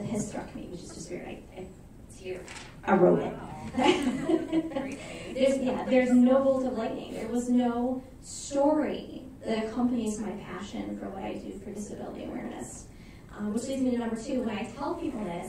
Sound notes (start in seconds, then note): 3.7 laughter